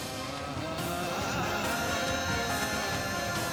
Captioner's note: poignant vocalisation